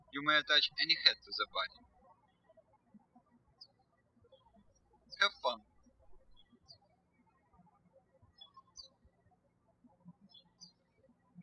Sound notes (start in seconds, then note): 0.0 birds chirping; 3.5 birds chirping